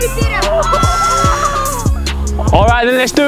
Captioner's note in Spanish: vítores de la multitud